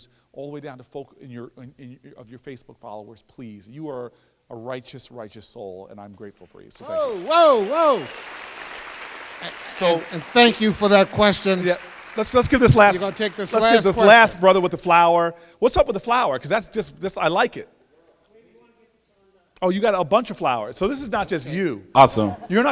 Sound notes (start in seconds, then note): 6.8 applause